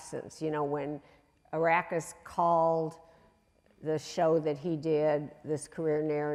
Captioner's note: voice muffled